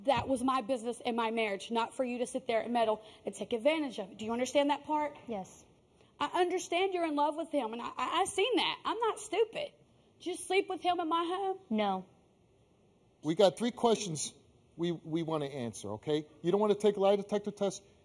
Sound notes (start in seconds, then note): none